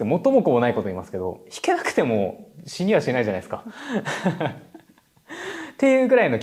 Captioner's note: laughs